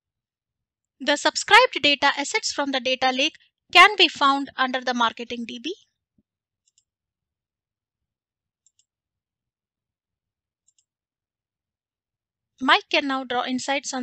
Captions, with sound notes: The subscribed data assets from the data lake can be found under the marketing DB. (mouse clicking) Mike can now draw insights